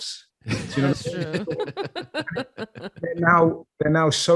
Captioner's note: laughing quickly